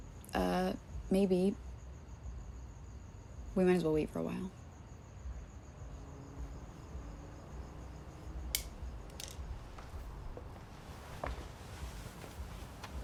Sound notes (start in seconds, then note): 5.2 traffic rumbling; 5.7 insects chirping